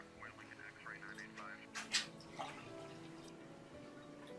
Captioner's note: radio chattering; water pouring